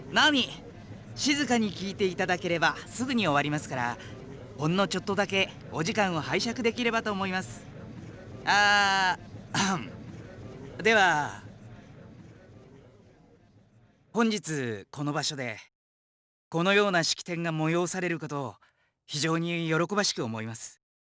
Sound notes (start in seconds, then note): 9.5 clears throat; 11.4 silence